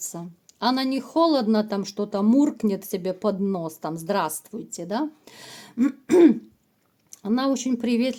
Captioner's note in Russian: откашливается